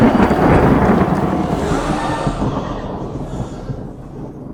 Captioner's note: crowd cheers; crowd gasps